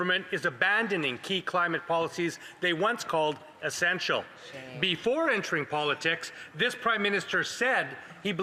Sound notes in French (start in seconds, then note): 2.7 voix de l'interprète